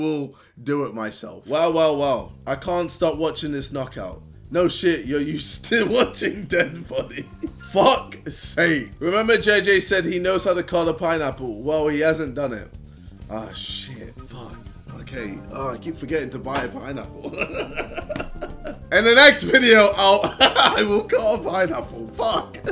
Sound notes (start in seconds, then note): 17.1 laughs